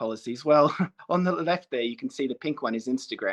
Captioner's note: chuckle